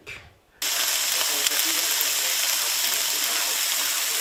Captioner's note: steak sizzling